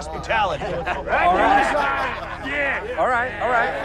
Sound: crowd shouting, laughing

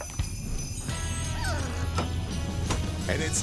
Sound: dog whimpers

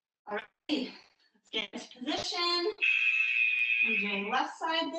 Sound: alarm blares

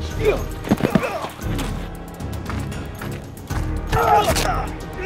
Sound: grunting; dramatic music

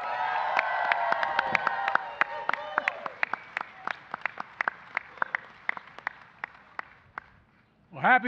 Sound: applause

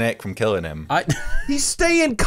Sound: laughs

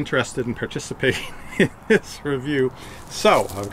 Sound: laughs

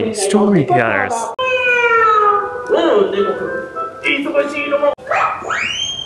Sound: storyteller makes sound effects & speaks in japanese

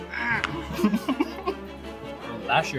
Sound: laughs

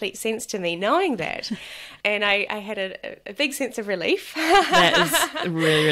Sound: laughs

